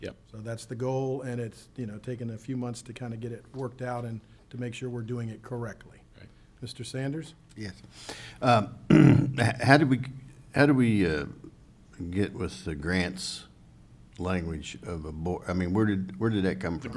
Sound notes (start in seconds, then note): 8.8 clears throat